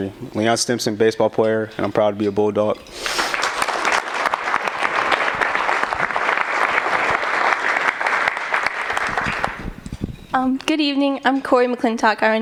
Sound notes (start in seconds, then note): 3.1 applause